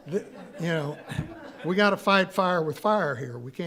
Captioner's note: audience laughing